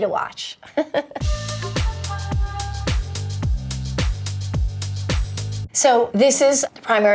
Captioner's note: Ellen giggling; upbeat music